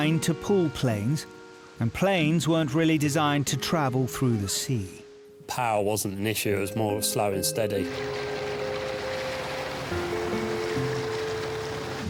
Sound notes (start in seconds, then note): 7.8 water sloshing